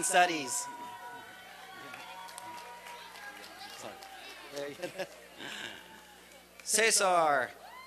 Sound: applause and cheering

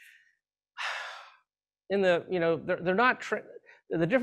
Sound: sighs

